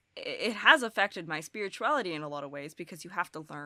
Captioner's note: none